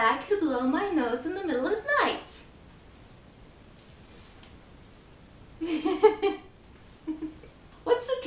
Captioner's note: laughs